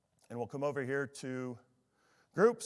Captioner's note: none